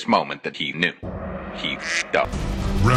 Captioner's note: quacked